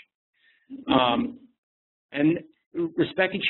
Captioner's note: laughs